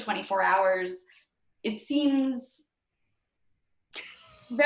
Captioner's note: laughs